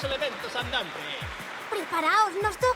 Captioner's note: applause